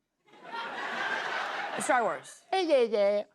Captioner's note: laughter